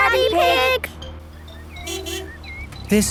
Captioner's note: honking